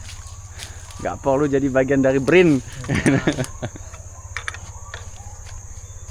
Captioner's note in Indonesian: tertawa